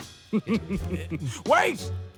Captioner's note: Sherblock chuckles